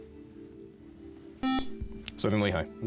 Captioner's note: beep